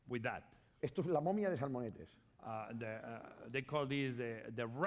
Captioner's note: speaking spanish